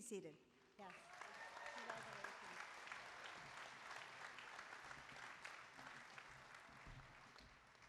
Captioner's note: applause